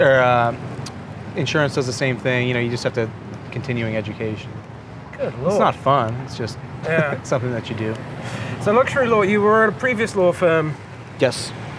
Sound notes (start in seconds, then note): 6.8 chuckles